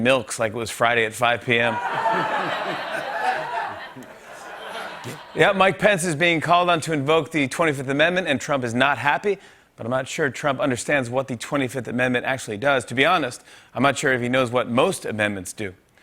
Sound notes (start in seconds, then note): 1.6 laughter